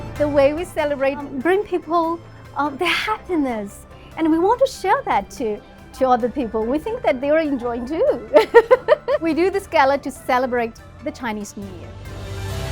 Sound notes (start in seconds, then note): 8.4 laughs; 12.4 warm music